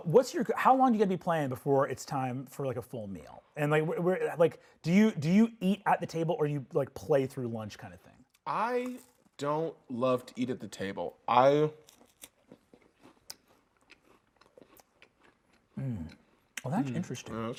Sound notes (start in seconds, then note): 11.8 chews